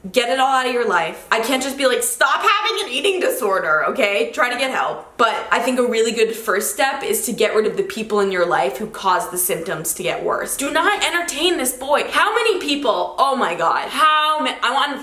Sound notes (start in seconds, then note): none